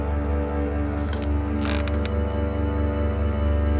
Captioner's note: ceiling creaking